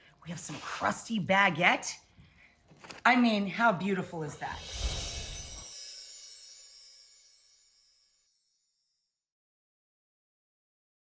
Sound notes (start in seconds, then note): 4.5 scene whooshing; 4.6 bells chiming